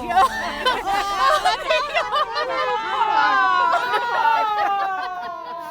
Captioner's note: laughing and ladies chattering